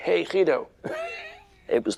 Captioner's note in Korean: 웃음